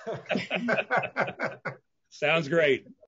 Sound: all laughing

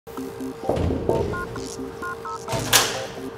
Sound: electronic music; knocking on door; door opens

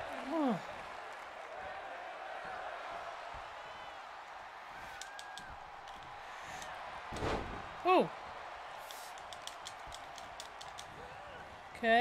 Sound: applause

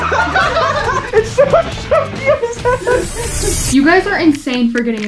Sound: all laughing; laughs

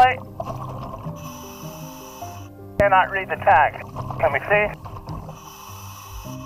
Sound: breathing

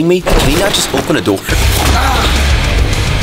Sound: grunts

